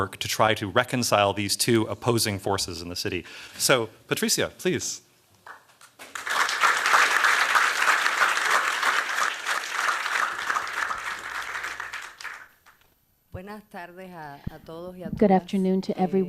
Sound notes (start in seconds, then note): 5.5 applause; 12.9 speaking spanish